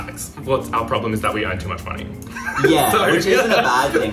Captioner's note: laughs